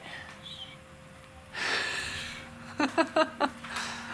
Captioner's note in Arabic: يضحك